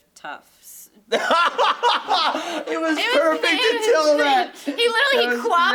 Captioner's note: laughs